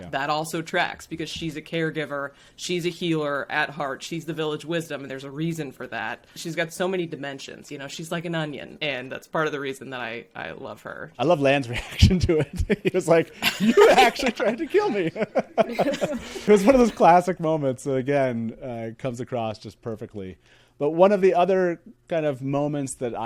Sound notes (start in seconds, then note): 13.4 laughs; 15.4 all laughing